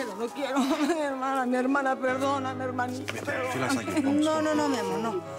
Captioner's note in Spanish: sollozos